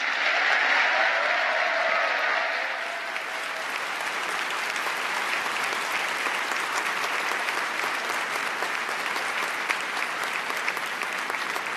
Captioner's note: applause